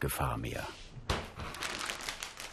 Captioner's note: rustling